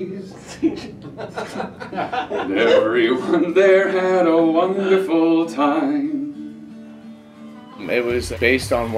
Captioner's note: laughter